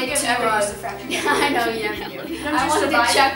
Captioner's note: laughs